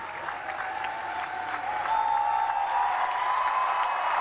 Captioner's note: cheering and applause